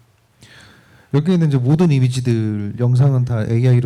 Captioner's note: speaking korean